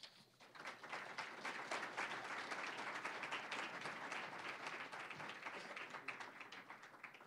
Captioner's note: applause